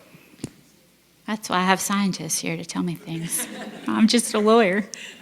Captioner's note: laugh